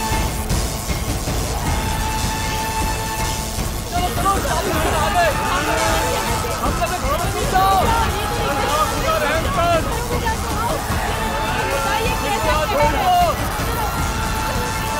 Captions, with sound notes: [indistinct chatter] Run inside your houses. Oh! Lord, please have some mercy. What a tragic moment!